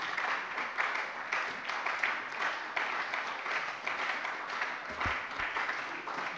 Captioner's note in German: Beifall bei der SPD